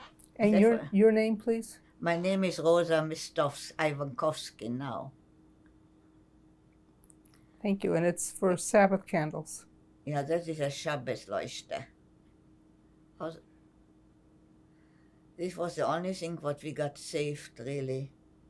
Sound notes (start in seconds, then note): 13.1 german